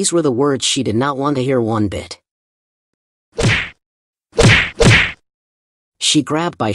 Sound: sound effect

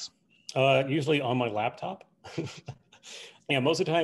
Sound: laughs

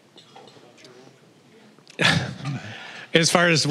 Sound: laughing

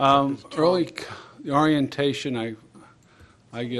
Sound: off mic

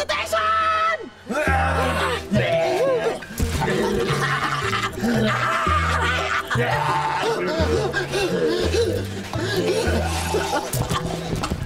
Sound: zombie grunts

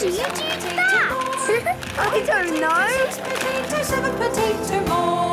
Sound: laughing

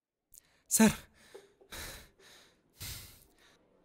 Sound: gasping

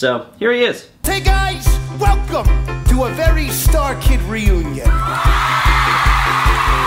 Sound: applause and cheering

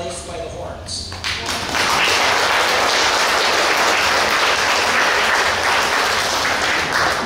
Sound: clapping

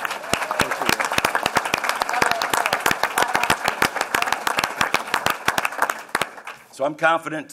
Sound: applause

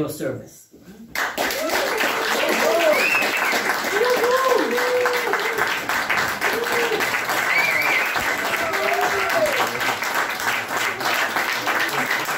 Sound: applause

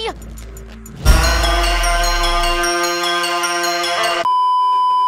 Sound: intense horn #3; beeeeeep

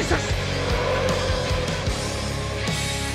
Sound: tires skidding

